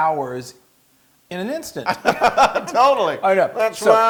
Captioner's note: laugh